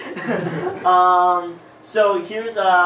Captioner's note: laughter